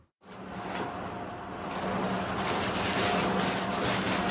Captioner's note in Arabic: حفيف الورق